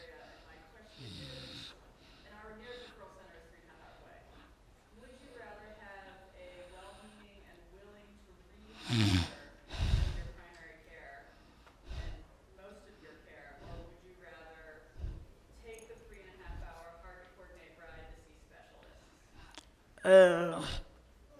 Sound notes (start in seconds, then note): 9.6 breathing in microphone